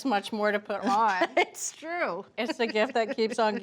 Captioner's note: laughs